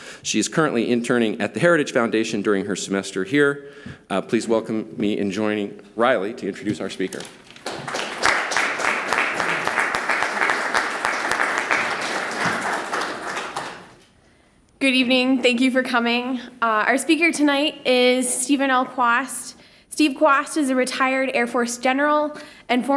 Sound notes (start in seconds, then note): 7.5 applause